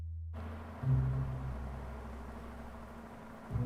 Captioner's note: car humming